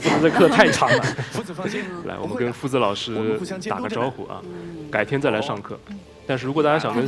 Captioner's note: laughs